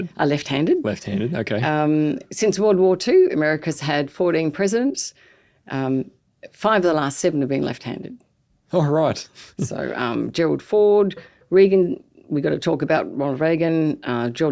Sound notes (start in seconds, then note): 9.4 chuckles